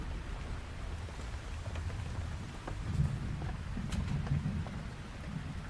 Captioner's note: raindrops